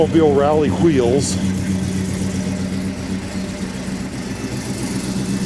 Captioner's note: engine roaring